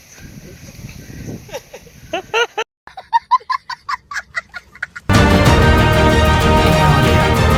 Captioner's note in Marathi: हास्य